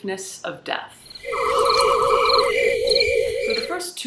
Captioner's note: spooky sounds and crickets